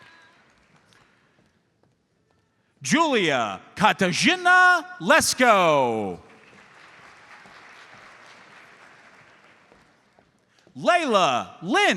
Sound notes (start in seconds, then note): 6.0 audience applauds